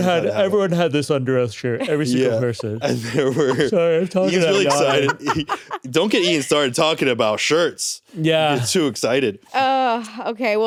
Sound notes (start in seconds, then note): 5.7 laughs